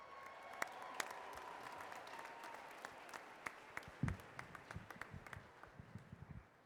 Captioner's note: cheers and applause